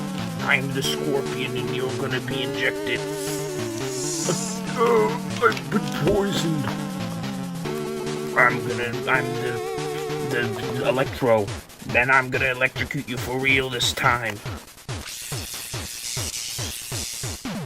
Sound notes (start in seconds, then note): 2.1 injection noises; 2.6 cries of pain; 15.1 extreme electric current